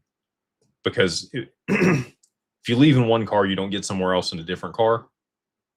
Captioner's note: clears throat